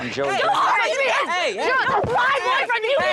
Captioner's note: shouting